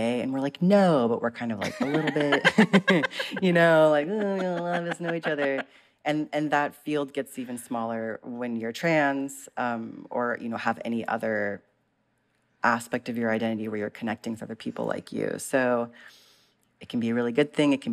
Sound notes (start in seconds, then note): 1.6 laughter